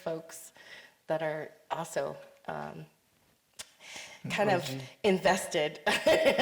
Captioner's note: chuckles